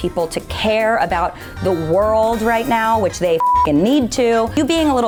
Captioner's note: beep